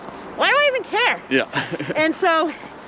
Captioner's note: laughs